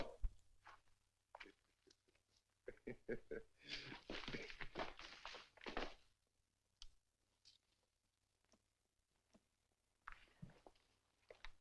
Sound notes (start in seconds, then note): 2.6 chuckles